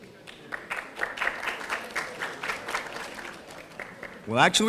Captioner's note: audience applauding